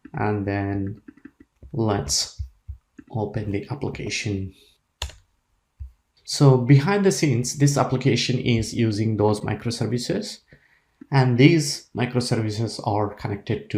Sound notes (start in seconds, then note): 5.0 Enter key clicks